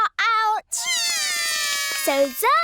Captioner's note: both cry